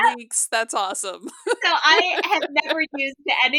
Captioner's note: laughter